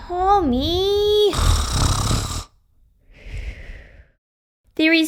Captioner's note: snoring!